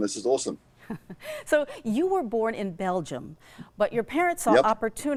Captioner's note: laughs